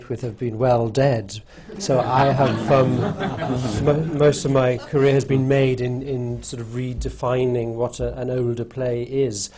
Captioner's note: laughter